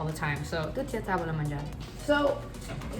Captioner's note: speaking in Italian